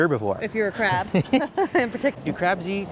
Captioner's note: laughing